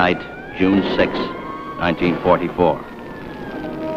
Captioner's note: siren wailing